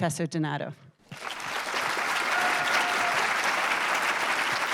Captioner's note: audience applauding